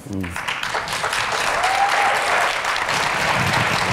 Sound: applauds

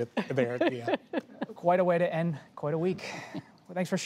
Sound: laughter

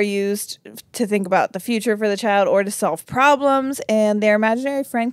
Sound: none

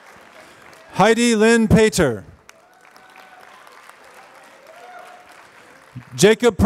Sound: applause

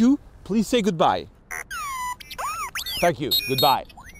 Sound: robot beeping

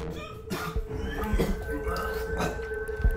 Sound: Dhanush vomits

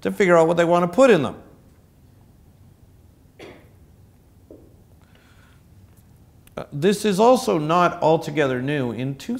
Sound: cough

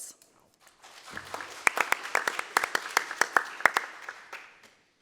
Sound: applause

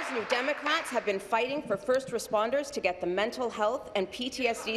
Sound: applause

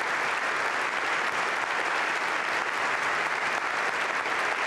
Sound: applause

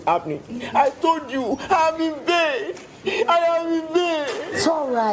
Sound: crying

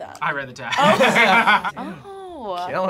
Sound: both laugh

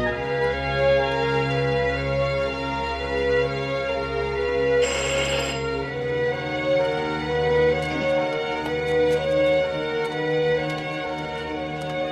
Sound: bell ringing

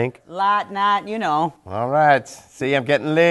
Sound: thick, British accent

